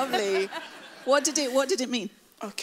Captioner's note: laughs